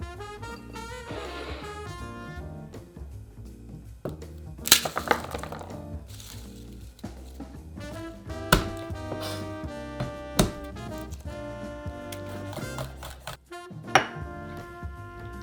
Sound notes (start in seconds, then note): 6.0 garlic papper rustling; 8.3 knife smashing